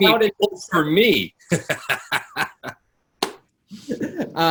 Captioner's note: laughs